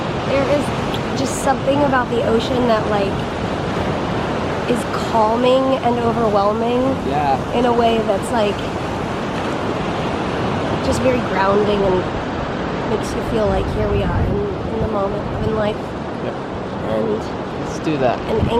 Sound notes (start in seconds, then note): none